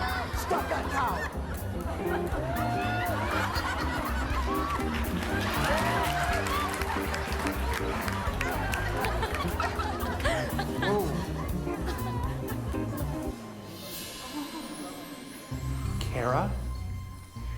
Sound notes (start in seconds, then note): 1.8 crowd laughing and applauding